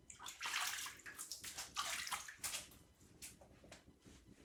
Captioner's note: water splashing